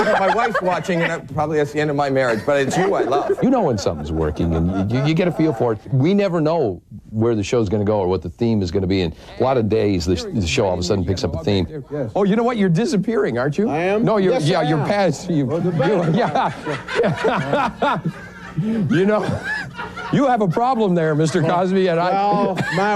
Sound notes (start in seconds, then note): 15.4 audience laughs